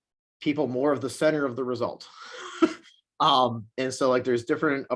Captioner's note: chuckles